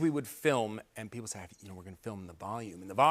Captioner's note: whispering